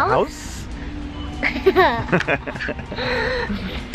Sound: laughing

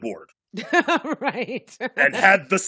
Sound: laughing

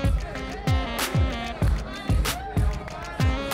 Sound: girl cheering

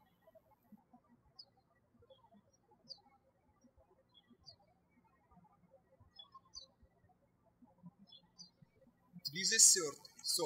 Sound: birds chirping

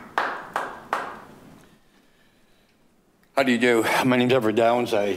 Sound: group clapping

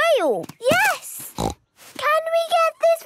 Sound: snorts

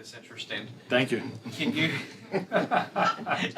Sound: laughter

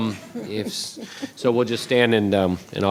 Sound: audience laughs

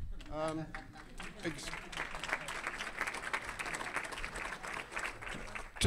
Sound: audience applauding; laughing

